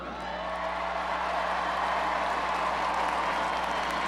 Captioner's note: crowd cheers